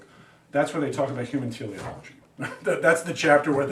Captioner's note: laughs